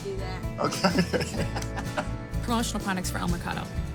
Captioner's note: laugh